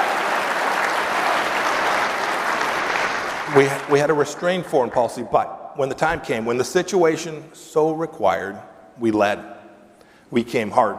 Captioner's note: applause